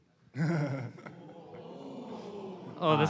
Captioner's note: laughter